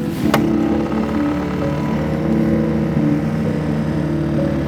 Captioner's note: boat motor revving